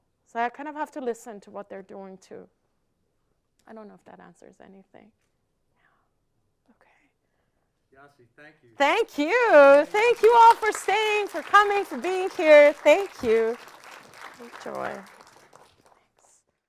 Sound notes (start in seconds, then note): 9.7 audience applauding